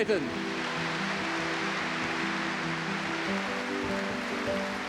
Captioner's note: audience clapping